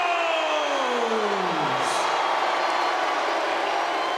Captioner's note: audience jeering